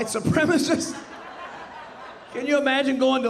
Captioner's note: audience laughing